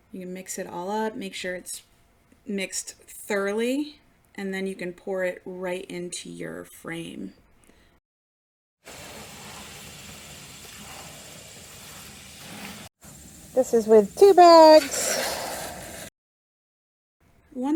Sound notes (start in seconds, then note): 9.0 concrete grinds; 14.5 shovel scrapes